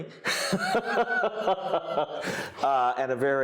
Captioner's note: laughing